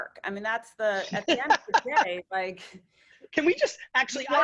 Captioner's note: laughing